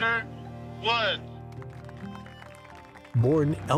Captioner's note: audience applauding